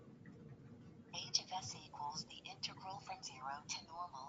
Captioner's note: automated Voice